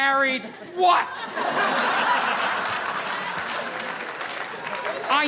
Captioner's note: audience laughing; audience applauding